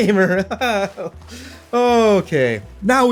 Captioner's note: laughs